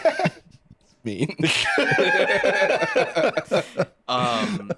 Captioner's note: both laugh